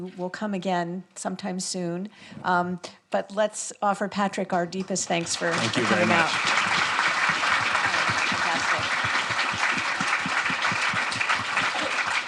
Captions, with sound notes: We hope you will come again sometime soon. But let's offer Patrick our deepest thanks for coming out. - Thank you very much. (audience applauding) - Fantastic.